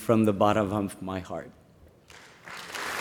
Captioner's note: applause